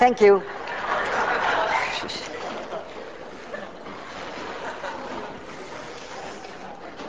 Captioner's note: class laughs and applauds; class laughs